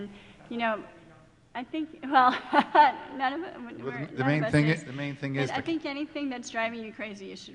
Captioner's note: laughing